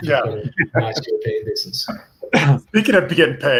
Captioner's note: laughs; faintly speaking